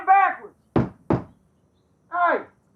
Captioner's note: Shanks banging